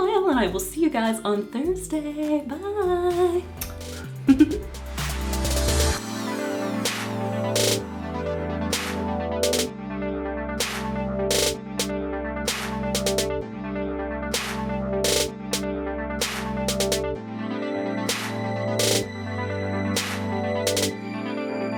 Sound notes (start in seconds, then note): 3.6 kiss; 4.0 giggle; 5.1 upbeat electronic music